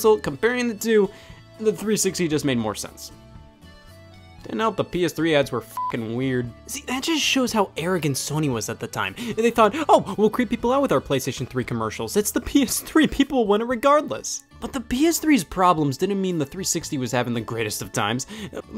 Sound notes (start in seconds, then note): 5.7 beep